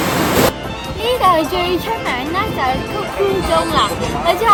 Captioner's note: waterfall